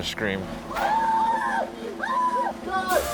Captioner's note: people screaming